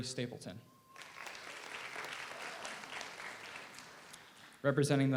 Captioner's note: audience applauds